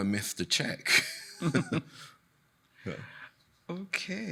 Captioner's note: chuckling